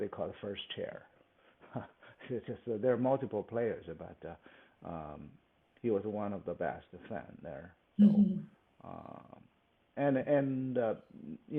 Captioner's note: laughs